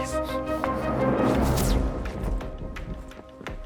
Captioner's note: zapping